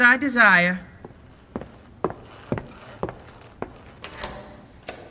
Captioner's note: footsteps; door locking